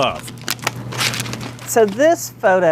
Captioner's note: pages turning; pat